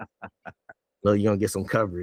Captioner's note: laughing